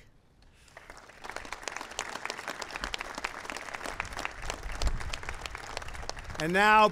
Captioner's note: applause